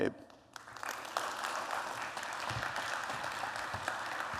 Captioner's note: applause